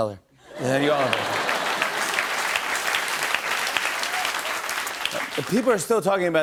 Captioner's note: laughter and applause